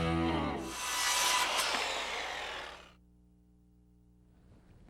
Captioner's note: wood saw buzzing